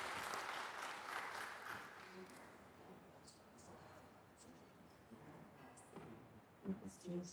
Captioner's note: applause